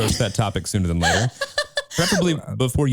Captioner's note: laughing